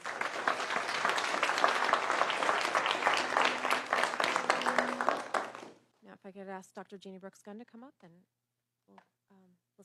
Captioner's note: applause